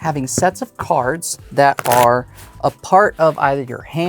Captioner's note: cards riffling